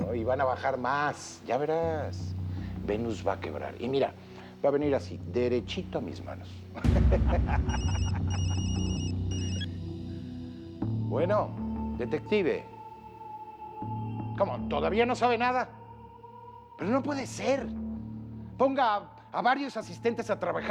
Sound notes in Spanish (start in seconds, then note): 6.7 Risas; 7.7 Suena el celular